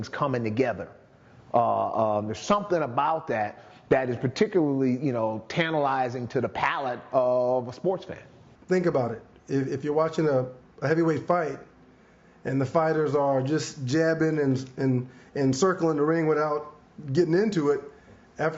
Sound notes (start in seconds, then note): none